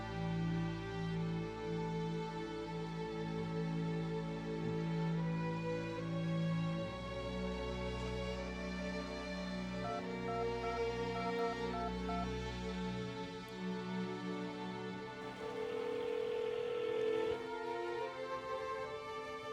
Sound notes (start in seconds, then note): 9.9 phone keys beeping; 15.2 telephone ringing